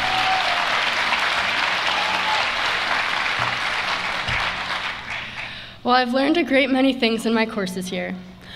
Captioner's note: applause